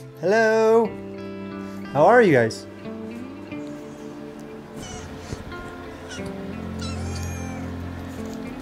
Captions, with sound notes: Hello. How are you guys? (kittens purring)